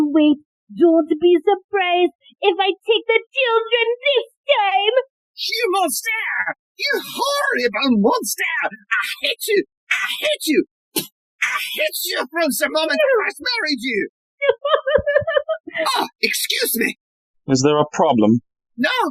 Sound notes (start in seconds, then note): 9.9 spits; 11.3 as Helga, sobs